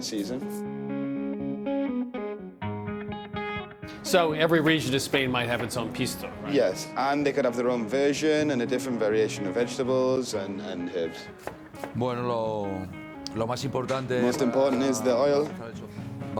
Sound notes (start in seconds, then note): 11.3 speaking Spanish